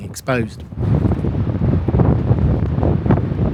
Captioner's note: sound of wind